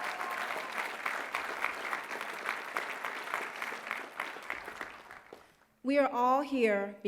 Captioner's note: applause